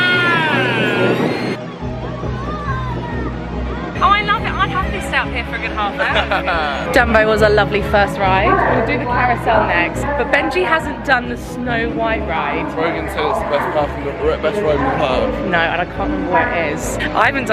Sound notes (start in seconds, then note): 0.1 upbeat music; 6.5 laughing